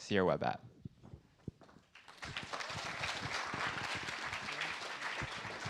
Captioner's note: applause